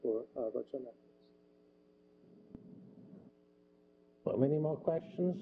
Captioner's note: pause